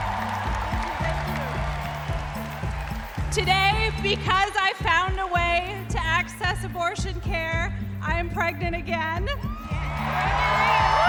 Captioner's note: cheers and applause